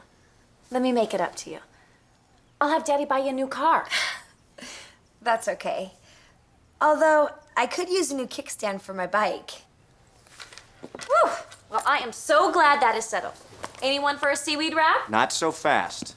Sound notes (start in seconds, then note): 10.9 sighs